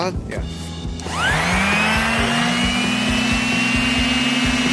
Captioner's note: sanders buzzing